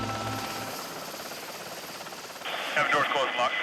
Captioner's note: helicopter blades chopping